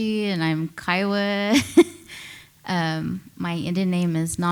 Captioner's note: laughs